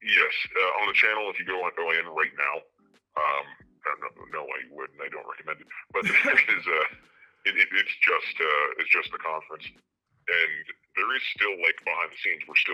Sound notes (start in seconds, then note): 5.6 laughs